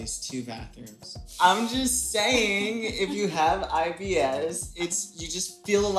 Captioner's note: laughing